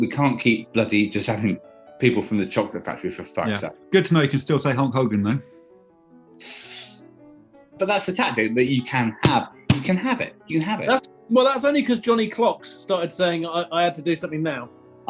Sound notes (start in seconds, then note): 6.4 sniggering